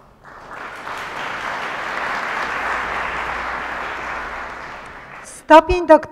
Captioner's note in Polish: oklaski